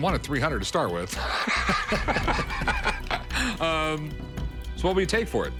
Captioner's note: laughs